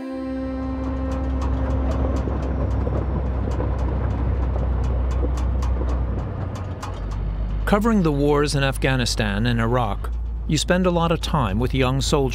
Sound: voice-over

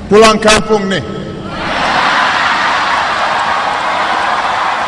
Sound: non-english speech; cheering

